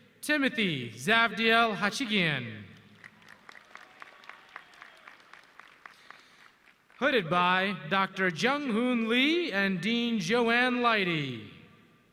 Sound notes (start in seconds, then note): 2.8 audience clapping